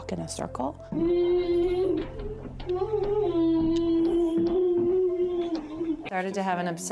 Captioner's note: humming